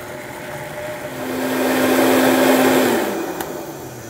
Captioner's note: blender sounds